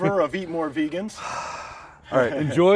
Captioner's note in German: seufzt